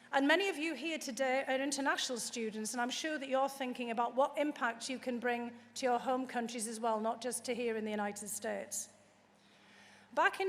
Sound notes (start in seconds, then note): none